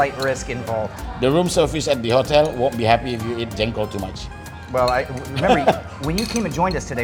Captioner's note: laughing